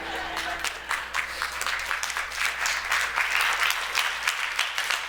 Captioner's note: clapping